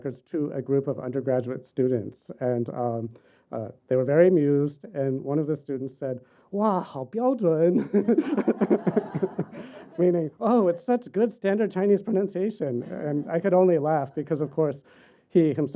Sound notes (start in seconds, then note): 7.1 speaking chinese; 7.8 laughter